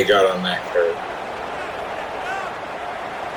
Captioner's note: crowd Noises